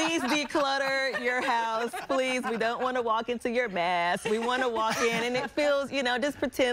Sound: laughter

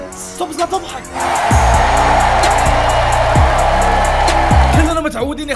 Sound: crowd Cheering

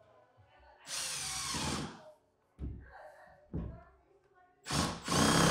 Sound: drill whirring

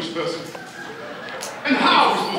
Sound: people laughing

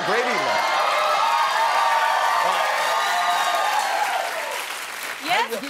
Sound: cheering

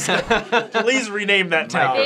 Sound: everyone laughing

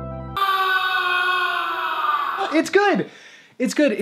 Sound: upbeat music plays; shouts

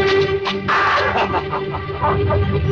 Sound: laughs

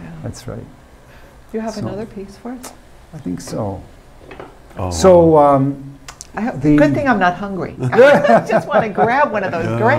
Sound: laughing

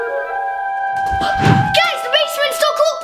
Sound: air whooshing

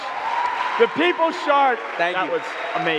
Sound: audience clapping, cheering

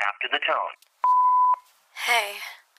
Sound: beep

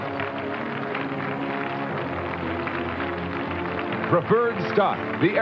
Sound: audience clapping

